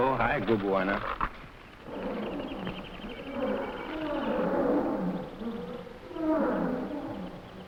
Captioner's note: animals chattering; wild animals groaning